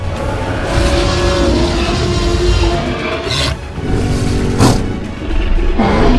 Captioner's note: أصوات Triceratops; T-rex roars